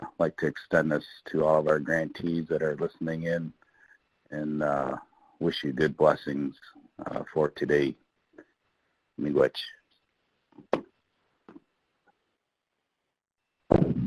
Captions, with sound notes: And I'd like to extend this to all of our grantees that are listening in, and wish you good blessings for today. (speaking in foreign language)